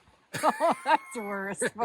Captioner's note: laughing